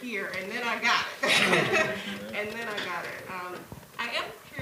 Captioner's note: laughter